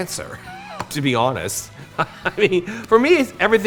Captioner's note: chuckles